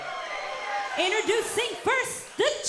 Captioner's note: crowd cheering